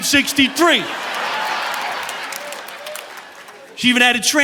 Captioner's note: audience laughing